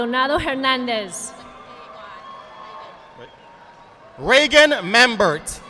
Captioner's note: audience applauding